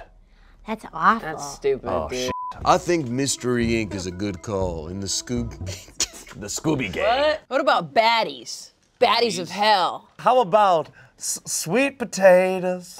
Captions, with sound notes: - That's awful. - That's stupid, dude. - Oh, (beep). - I think Mystery Inc. is a good call in the Scoob... - The Scooby gang. - What? What about baddies? Baddies of hell. - How about Sweet potatoes?